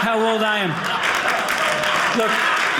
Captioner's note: audience cheering